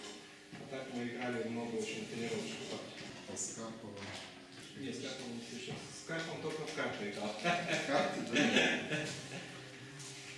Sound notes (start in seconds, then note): 7.4 laughing